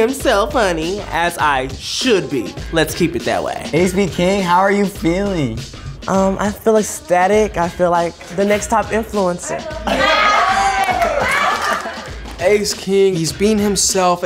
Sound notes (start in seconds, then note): 9.5 housemates laughing; 9.8 housemates cheering